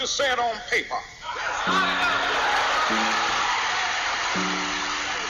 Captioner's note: crowd cheers